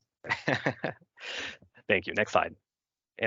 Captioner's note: chuckles; breaths deeply